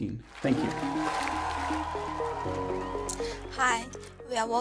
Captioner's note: applause